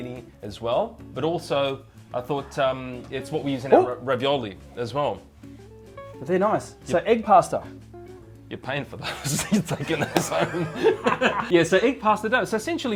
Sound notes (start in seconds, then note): 11.0 men laughing